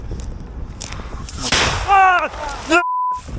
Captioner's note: explosion sound